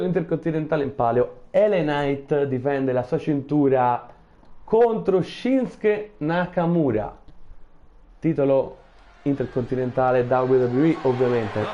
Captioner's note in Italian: Applauso